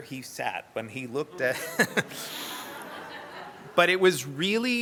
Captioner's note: laughs; audience laughter